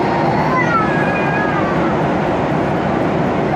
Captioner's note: baby crying